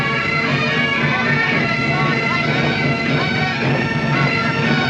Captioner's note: man shouting